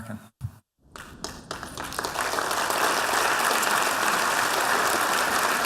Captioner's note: applause